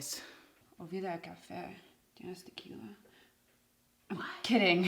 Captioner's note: Michelle speaks in Spanish; Jeanette speaks in Spanish